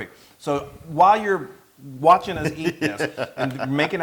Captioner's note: laugh